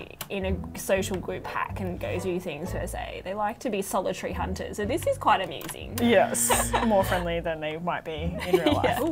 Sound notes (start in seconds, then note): 6.0 laughs